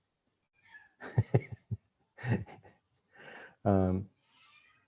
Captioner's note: chuckles